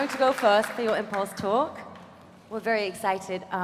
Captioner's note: applause